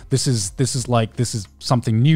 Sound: none

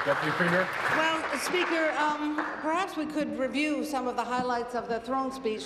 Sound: applause

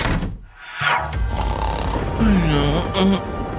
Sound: groans; snoring

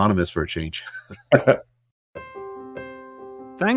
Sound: laugh

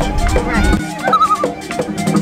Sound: loon calls

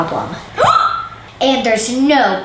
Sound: gasps

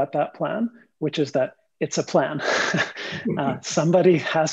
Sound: laughs

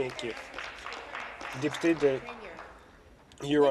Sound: applause

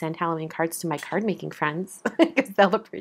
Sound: laughs

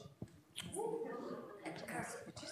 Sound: quiet cheering, chattering

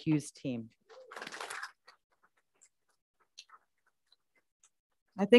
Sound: group applauds

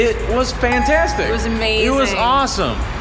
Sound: ding

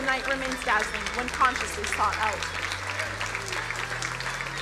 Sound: crowd applauding

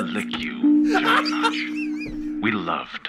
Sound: cracking up

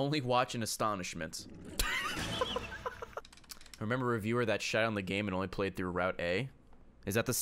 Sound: laughs

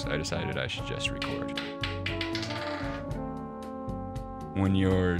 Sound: dice clattering

